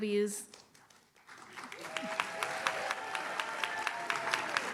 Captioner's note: audience claps